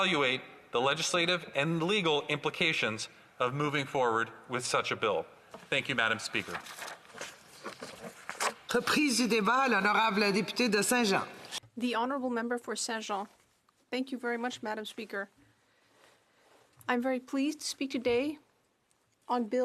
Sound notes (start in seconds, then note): 14.3 speaking French